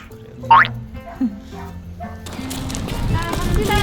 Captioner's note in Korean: 와글와글